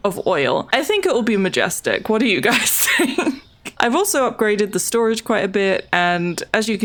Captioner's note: laughs